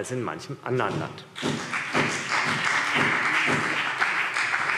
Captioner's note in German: Beifall CDU und BÜNDNIS 90/DIE GRÜNEN